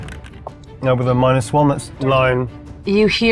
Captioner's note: dice rattling